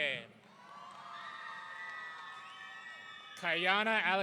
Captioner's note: audience cheering